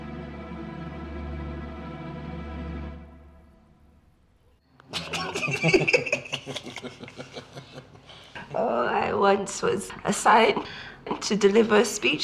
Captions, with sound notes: (both laughing) Oh, I once was assigned to deliver a speech